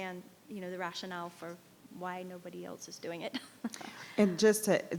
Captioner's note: laughs